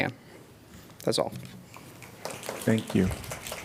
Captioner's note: applause